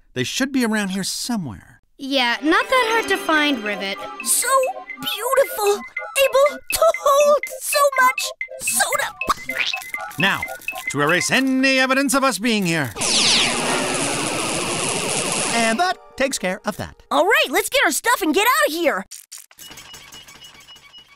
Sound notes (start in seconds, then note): 12.9 zapping